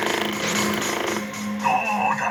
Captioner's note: controller vibrating